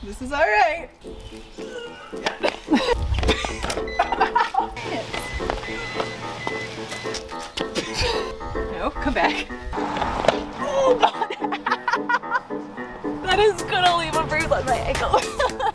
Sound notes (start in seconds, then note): 1.6 laughing; 4.8 beeping; 10.6 laughing